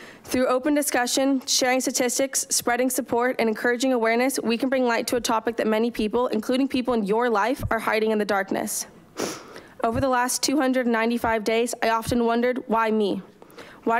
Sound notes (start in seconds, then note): none